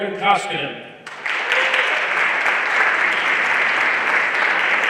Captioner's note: everyone applauding